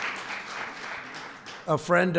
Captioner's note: applause